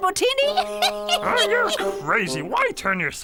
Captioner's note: laughing